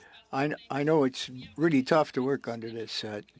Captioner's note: speaking French